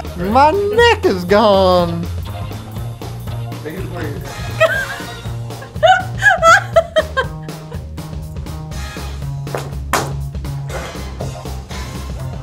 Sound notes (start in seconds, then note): 5.4 laughing